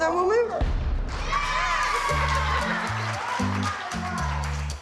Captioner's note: cheering, laughing